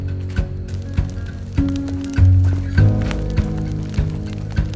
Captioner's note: fire crackles